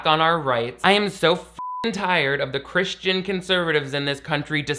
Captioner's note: beep